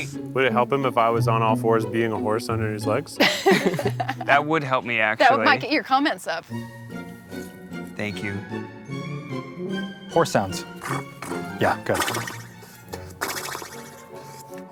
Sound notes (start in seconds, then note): 3.2 laughing